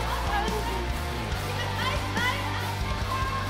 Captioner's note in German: laute Rufe